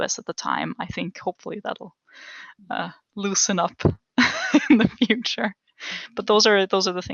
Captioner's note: laugh